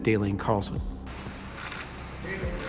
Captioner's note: camera shutters clicking